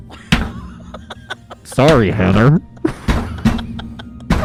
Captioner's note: pounding; laughing; pounding